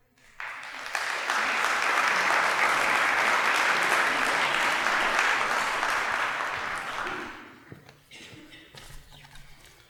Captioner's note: applause